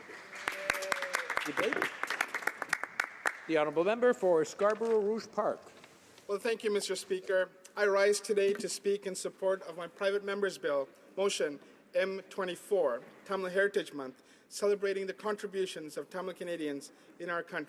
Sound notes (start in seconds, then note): 4.0 some Applause